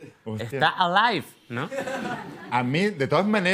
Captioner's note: laughs